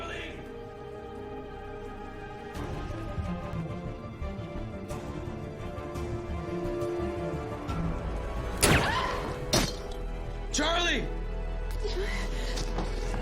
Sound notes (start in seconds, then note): 8.7 gununshot, she gasps